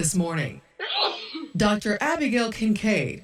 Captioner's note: sneezes